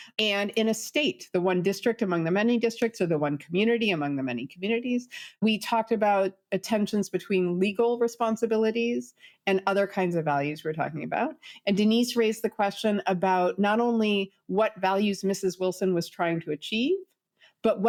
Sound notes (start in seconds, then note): none